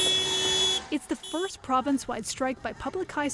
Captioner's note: honking